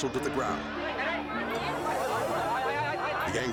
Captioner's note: all shouting in foreign language